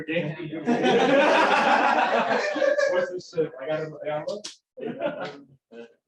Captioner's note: laughter